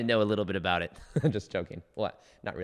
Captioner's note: giggles